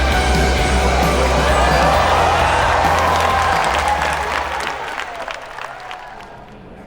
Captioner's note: crowds cheering; voice in the background of announcer on the loudspeaker